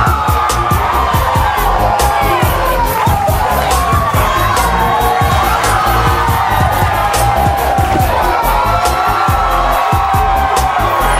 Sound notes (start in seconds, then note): 1.4 audience cheering